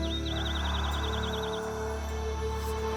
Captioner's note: whispering